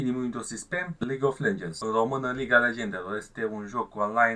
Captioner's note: in Romanian Language Liga Legendelor